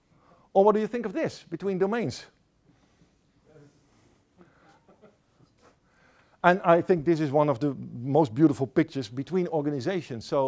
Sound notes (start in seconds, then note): 4.6 laughter